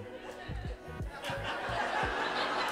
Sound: laughter

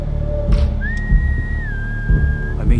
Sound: whistle

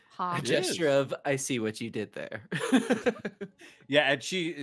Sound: chuckling

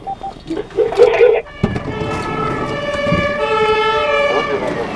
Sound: sirens

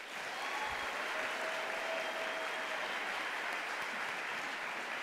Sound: audience applauds and cheers

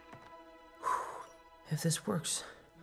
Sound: exhale

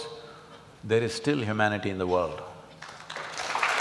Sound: applause

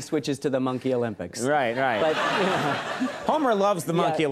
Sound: crowd laughing

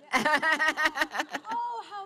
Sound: laughs

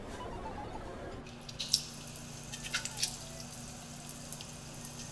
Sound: water splashing

